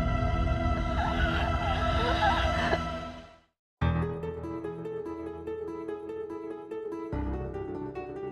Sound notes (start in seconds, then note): 1.5 wheezing